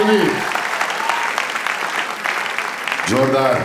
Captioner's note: crowd applauding